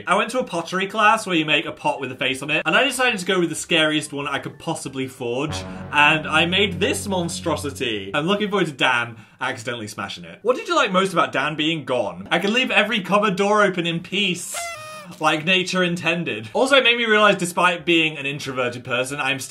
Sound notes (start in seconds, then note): 14.5 party sound effect